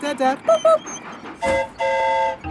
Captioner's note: mimics train whistle; train whistle toots